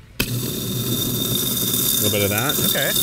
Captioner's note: grinder whirring